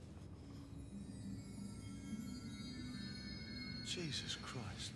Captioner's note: chime sounds